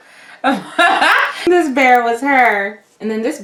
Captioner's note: laughs